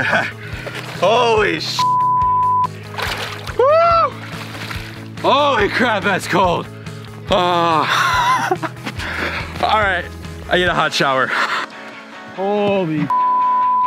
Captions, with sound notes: Holy (beep). Whoo! Holy crap, that's cold. Ah. (laughs) All right, I need a hot shower. Holy (beep).